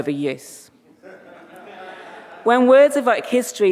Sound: audience laughing

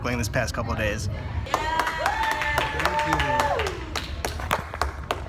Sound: cheering and clapping

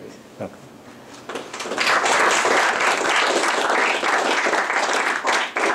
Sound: applause

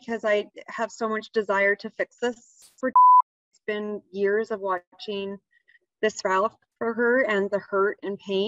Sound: beep

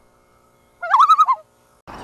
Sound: a loon calls

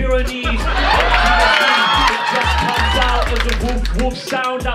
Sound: laughter

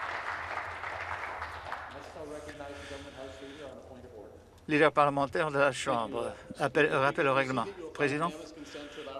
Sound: applause

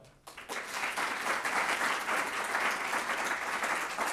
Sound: round of applause

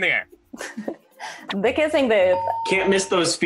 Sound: laughs; bell rings

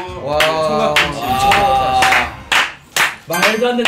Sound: they clapped their hands

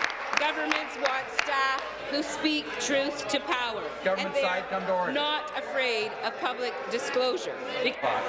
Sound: applause

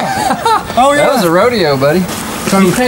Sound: laughs

